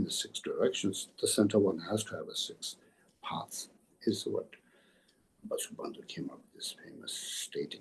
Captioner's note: tibetan